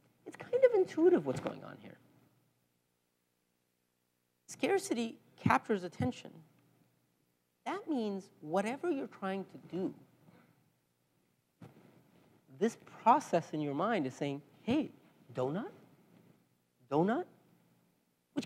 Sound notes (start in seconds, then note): none